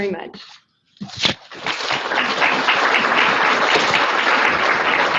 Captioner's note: audience applauds